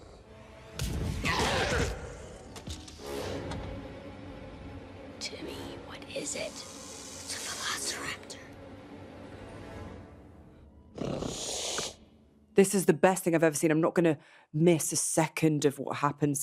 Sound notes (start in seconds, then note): 1.1 dinosaur roars; 2.7 suspenseful music plays; 5.4 whispers; 10.9 dinosaur growls